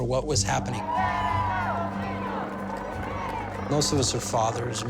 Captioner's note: crowd chanting